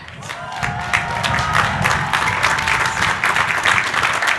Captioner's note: crowd cheering